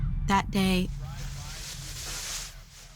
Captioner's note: radio playing